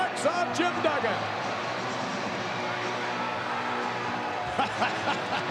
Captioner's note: audience cheering; laughs